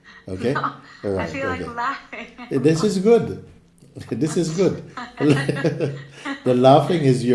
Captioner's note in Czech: smích